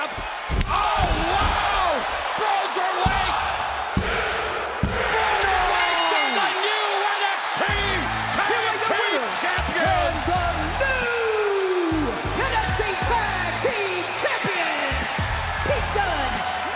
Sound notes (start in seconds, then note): 4.2 crowd cheering; 5.7 bell ringing